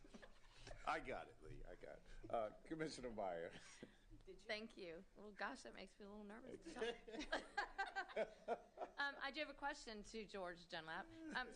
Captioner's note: laughter